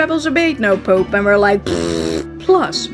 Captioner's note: raspberry